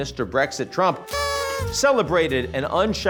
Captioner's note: party horn honks